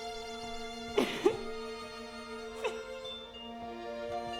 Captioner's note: Nelly crying